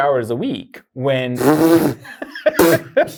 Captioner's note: blows raspberry; guy laughing